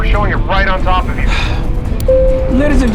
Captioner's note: sigh